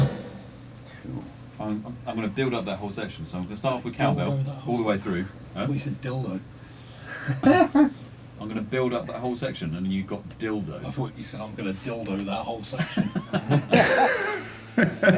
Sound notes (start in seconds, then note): 7.4 comic book laughter; 13.8 childish laughter